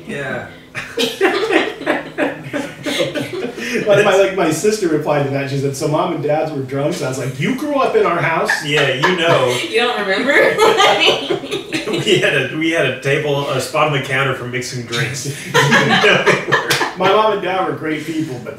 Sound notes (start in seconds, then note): 0.7 both laughing; 10.2 everyone laughing; 15.0 everyone laughing